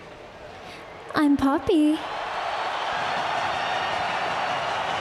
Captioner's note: crowd cheers